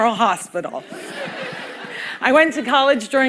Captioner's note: laughter